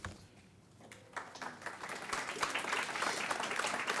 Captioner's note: applause